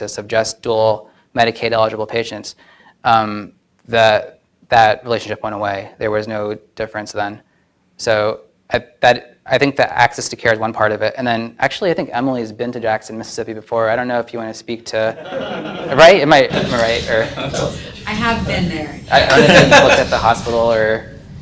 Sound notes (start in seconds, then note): 15.1 audience laughs